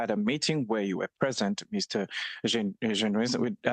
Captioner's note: speaking French